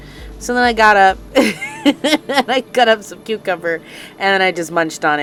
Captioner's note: laughing